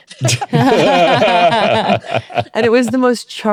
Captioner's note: all laughing